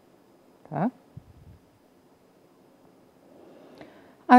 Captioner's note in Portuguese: silêncio